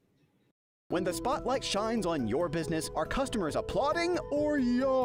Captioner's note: voiceover